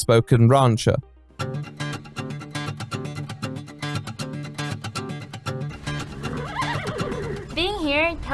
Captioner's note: cowboy sounds